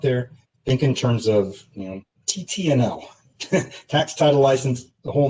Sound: laughter

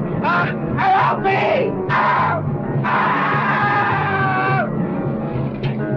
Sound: man screaming; screams; dramatic instrumental music

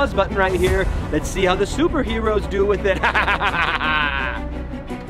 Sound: laughs

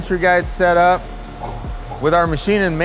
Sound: machinery whirring

